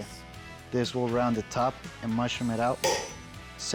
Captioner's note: hammering